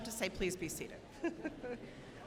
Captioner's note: laughs